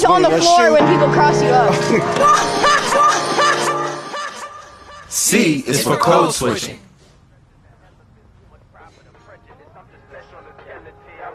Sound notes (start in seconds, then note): 2.2 laughter; 11.1 rapping